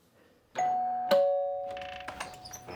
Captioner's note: doorbell ringing; door opening